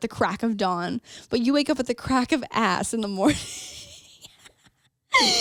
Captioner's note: laughs